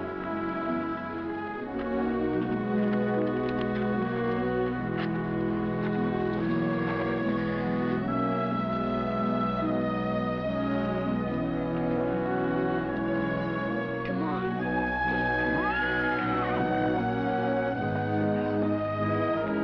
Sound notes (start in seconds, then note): 15.4 horse whinnying